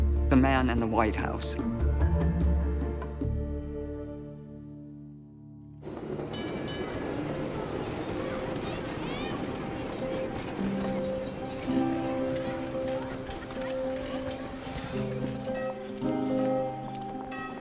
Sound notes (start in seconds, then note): 5.9 trolley bell rings; 9.1 children calling